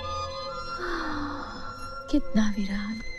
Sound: sighs

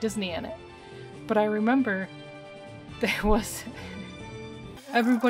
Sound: laughing

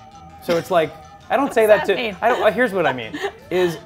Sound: laughs

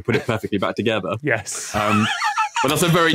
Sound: wheezes

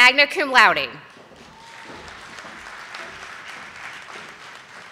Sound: audience applauding

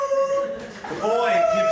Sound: hooting

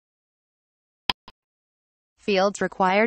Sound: click sound

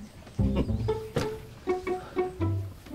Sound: laughs

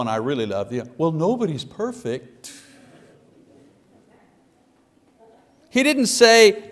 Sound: congregation laughs

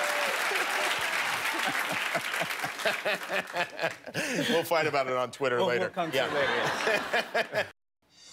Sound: laughter; cheers and applause

